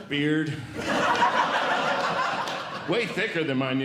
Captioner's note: audience Laughing